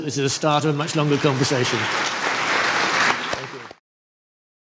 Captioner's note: applause